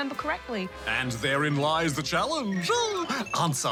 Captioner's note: chuckles